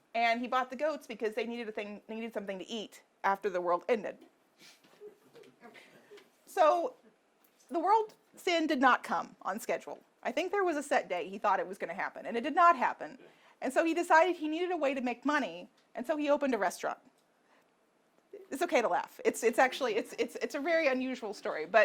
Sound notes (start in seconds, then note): 5.4 audience laughing